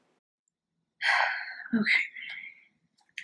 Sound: sigh

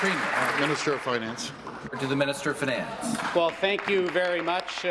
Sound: applause

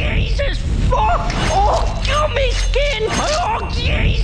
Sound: peeler scrapes violently

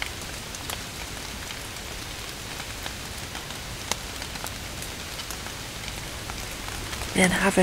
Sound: light rain

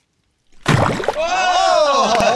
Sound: splash

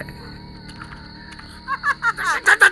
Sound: laughs

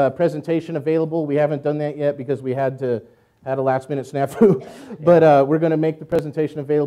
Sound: laughs

